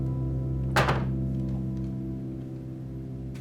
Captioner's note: soft piano music stops; sound of a cabinet closing